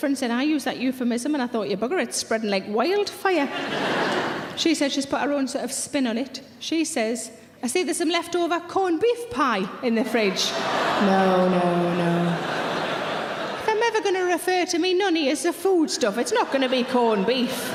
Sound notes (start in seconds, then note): 3.4 audience laughing; 10.0 audience laughing